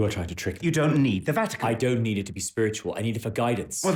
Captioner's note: none